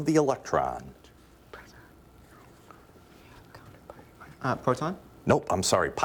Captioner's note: team whispering